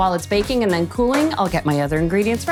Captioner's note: pan clinking